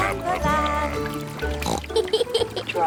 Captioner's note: oinks and giggles